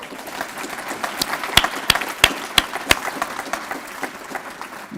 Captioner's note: applause